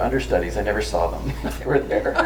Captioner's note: laughs